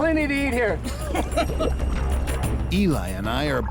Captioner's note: laughs